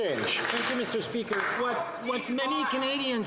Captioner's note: some Applause